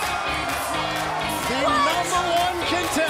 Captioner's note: cheers & applause